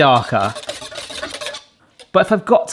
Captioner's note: hand whisk rattles